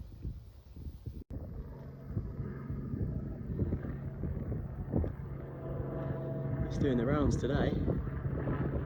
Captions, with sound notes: (P-51 Mustang engine noise) he's doing the rounds today